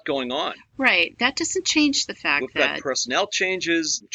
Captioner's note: interjects